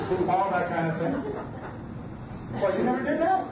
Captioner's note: audience laughs